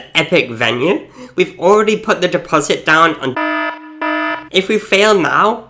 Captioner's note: loud beeping